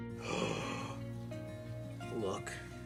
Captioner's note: gasps